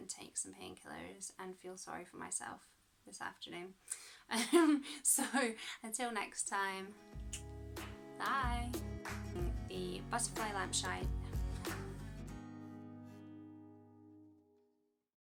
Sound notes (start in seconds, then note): 7.2 kiss